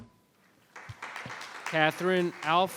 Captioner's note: audience applauds